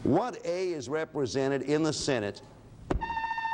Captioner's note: alarms sounds